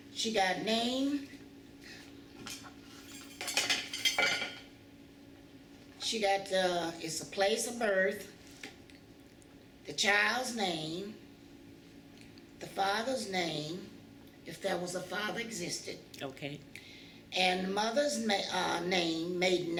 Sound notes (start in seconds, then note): none